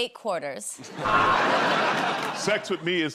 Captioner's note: buzzer